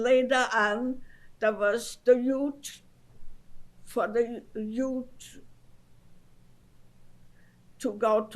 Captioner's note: pauses for 3 seconds